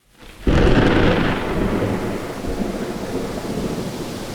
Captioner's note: thunder